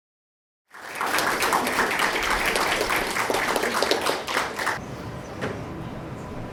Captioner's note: clapping